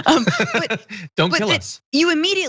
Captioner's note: laugh